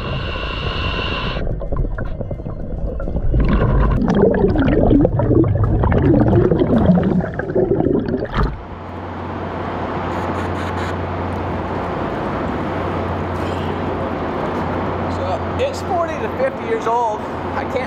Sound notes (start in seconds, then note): 0.0 breaths in; 3.6 water bubbles; 9.6 wind howls